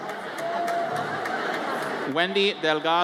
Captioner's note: audience chattering